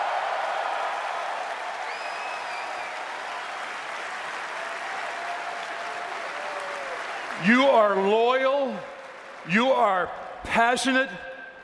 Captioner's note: cheers and applause